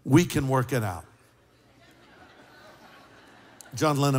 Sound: laughter

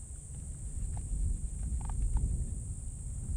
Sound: wind rustling

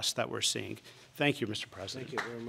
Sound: applause

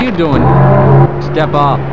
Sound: Gargantua Screams

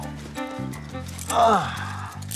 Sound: groans; mid-tempo music

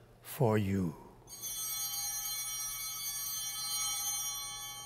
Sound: bell ringing

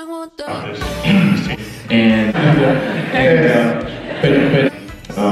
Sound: clears throat

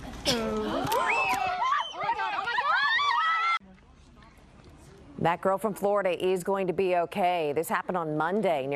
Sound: screaming

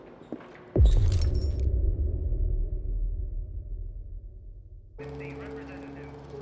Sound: muffled radio chatter

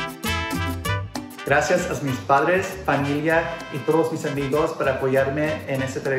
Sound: speaks in foreign language

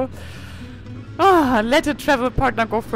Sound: sighs

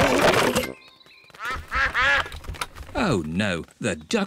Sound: quacking

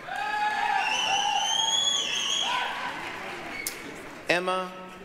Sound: applause, cheering

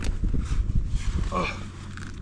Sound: groans

